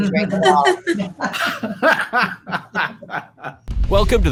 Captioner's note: laughs